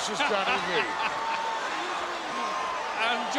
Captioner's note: Hayes chuckles